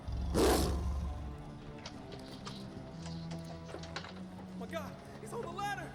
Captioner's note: roars; dramatic music